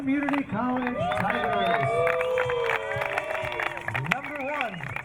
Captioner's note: crowd cheering